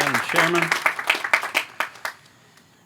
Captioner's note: applause